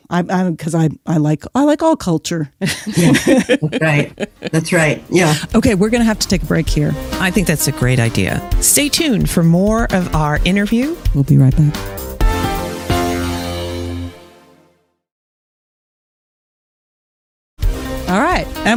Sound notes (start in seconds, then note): 2.6 chuckles; 2.6 laughs